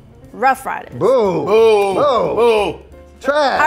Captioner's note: booing